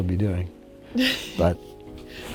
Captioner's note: Aislinn chuckles